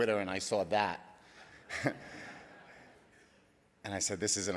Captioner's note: laughs